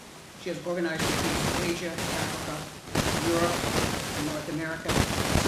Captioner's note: static hissing loudly